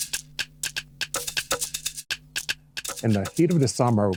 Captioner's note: melodic digging sounds